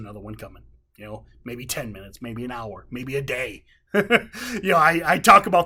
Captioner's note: laughs